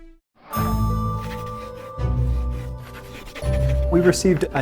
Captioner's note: fast paced scribbling